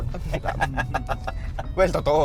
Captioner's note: laughs